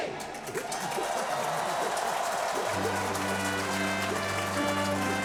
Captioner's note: cheering